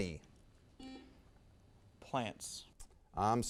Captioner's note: buzzer sounds